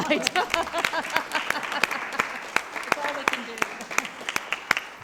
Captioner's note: people clapping